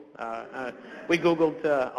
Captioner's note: audience laughs